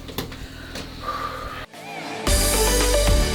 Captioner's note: patient breathes out; uptempo music